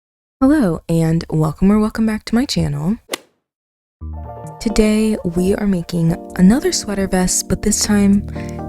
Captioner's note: golf hit sound effect